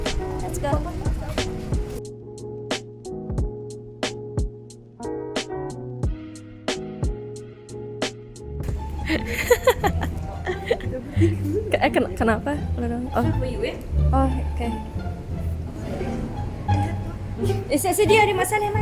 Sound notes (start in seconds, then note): 8.8 laugh